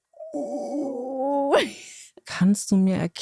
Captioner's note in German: lacht